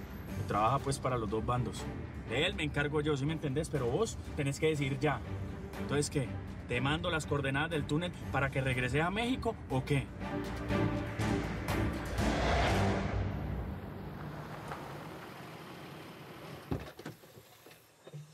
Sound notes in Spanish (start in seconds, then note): 15.2 sonido del motor